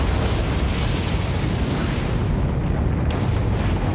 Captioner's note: explosion